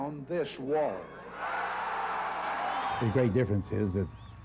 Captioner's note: cheers and applause